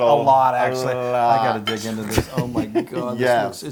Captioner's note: laugh